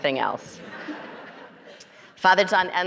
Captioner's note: audience laughing